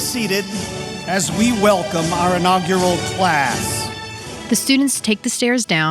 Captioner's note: cheers